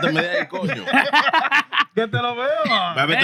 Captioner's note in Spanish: Riendo; Hablando en idioma extranjero